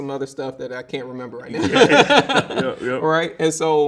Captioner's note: laughs